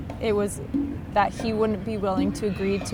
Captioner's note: none